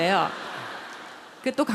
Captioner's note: audience Laughter